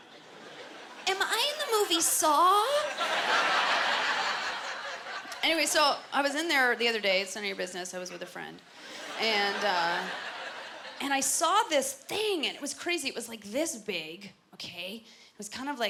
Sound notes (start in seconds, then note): 2.6 laughter